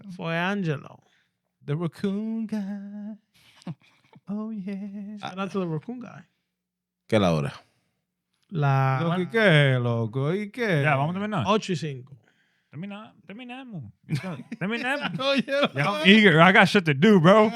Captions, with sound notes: For Angelo. The raccoon guy. Oh yeah. That's the raccoon guy. (Speaking In Foreign Language) Yeah, why don't you sing? Let me know. Let me know. Let me know. Oh yeah. Y'all eager, I got shit to do bro.